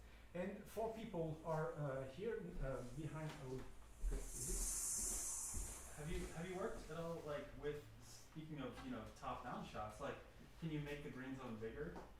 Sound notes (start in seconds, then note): 3.8 hissing noise